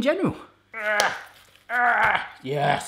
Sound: grunting

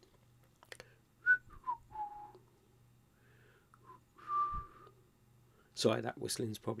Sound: whistles

